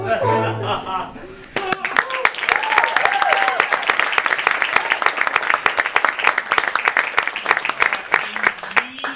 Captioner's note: applause